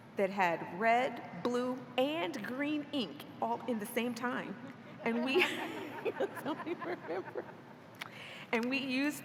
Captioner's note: laughter